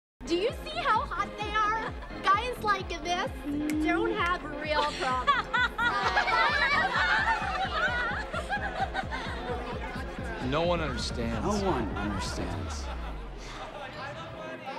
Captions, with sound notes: - Do you see how hot they are? Guys like this don't have real problems. (laughing) (electronic dance music) - No one understands. - No one understands.